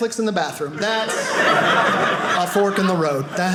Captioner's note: audience laughing